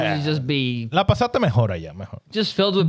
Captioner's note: speaking In Foreign Language